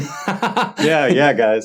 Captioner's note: laughing